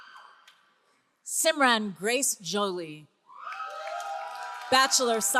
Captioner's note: all cheering